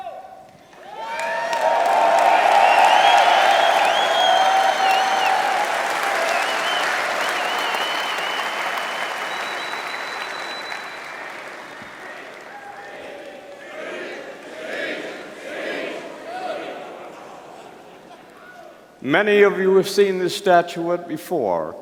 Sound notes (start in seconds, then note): 0.9 crowd applauding, cheering; 11.8 audience begins to chant "Speech!, Speech!, Speech!"